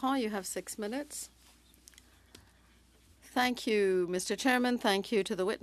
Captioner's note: speaking French